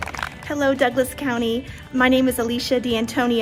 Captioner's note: applause